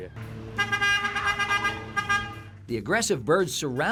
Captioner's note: truck honks